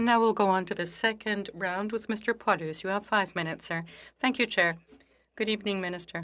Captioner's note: speaking French